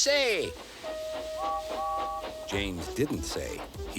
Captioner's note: toot toot